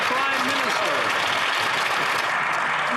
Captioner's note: some Applause